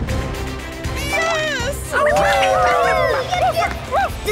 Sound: cheering

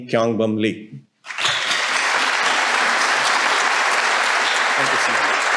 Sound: audience applauding

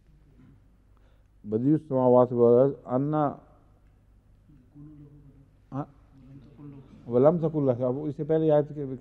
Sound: Arabic

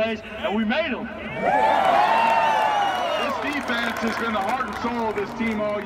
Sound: applause

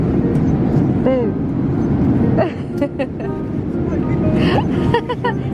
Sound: laughing

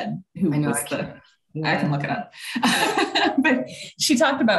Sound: laughing

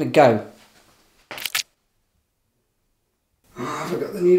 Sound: stab sound

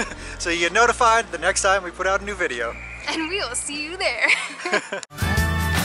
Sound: laughter

